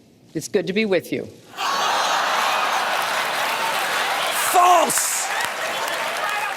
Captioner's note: laughter